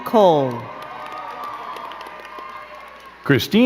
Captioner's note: crowd cheering and clapping